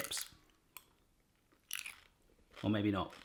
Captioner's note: crunches hesitantly